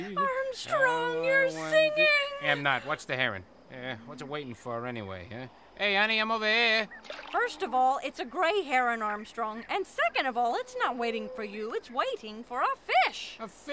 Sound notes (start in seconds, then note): 6.8 water splashes